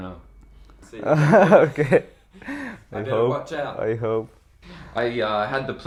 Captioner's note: laughs